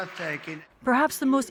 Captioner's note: cheering